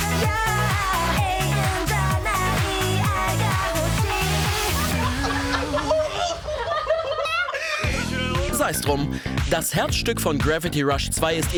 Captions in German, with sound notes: (Gelächter) -Sei es drum, das Herzstück von Gravity Rush 2